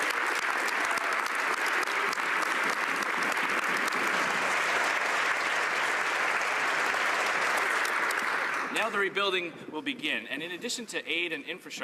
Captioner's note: applause